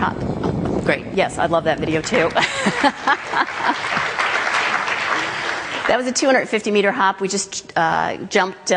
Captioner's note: claps from the audience; laughs, Claps as well